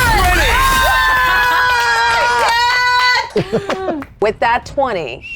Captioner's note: players laughing and cheering